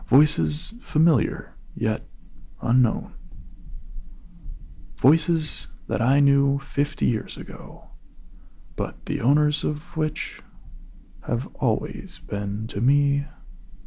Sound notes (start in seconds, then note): none